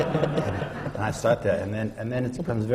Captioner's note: laughter